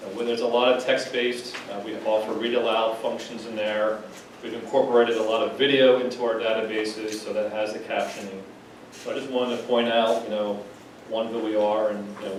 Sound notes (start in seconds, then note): none